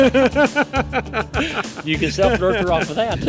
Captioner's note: laughing